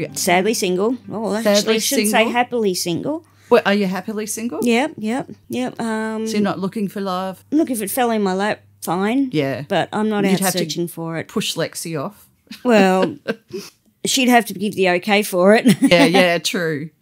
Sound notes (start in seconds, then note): 12.5 laughter; 15.6 laughter